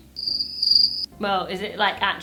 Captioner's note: crickets chirping